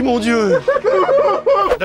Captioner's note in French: cris de joie, pleurs, embrassades